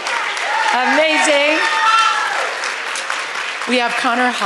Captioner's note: applause